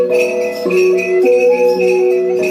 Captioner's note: bell